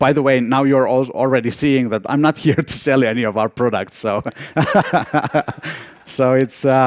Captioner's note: laugh